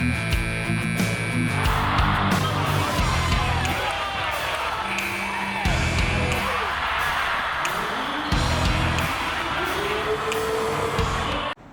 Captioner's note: buzzer; cheers and applause; buzzer